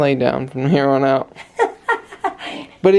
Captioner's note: laughing